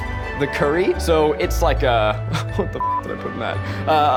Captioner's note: beep